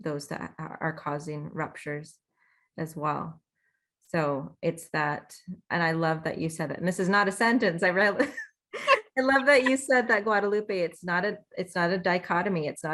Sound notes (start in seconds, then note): 8.8 laughs